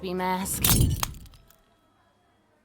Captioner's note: tink!!!